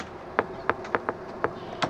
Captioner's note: knocks